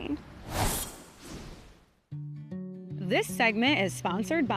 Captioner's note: slide swooshing